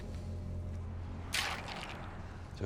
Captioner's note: ice sloshes